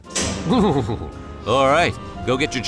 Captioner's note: shudders